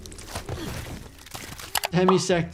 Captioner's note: body thudding; mouse clicking